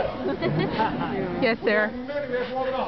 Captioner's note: laughter